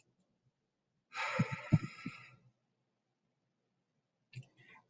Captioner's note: loud exhaling